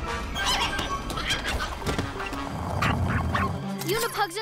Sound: shrieks & yaps

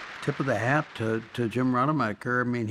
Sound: applause

